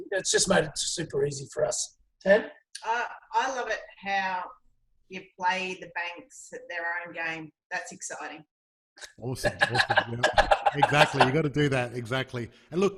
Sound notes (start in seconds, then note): 9.4 loud laughing